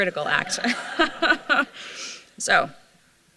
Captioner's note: laughter